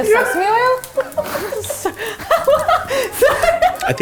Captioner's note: both laugh